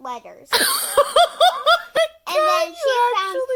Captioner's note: laughs